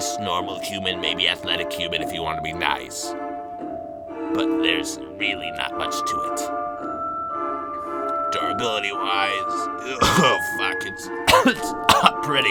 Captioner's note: coughs